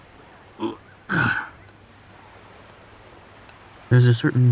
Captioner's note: the narrator grunts as he sits down onto the sand